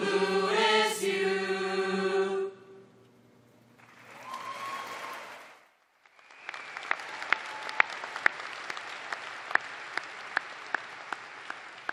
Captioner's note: applause